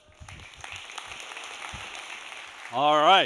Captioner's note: audience applauds